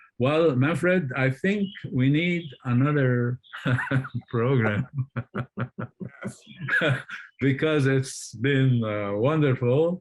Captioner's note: laughter